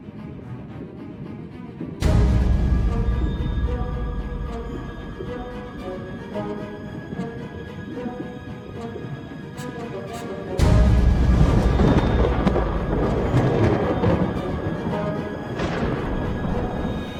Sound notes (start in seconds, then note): 12.3 thunder claps